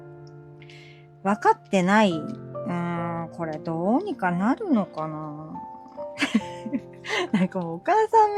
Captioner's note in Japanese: 笑い